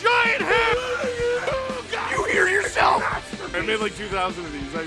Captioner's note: Harry potter screaming; screaming